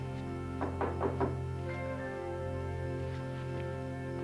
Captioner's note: knocking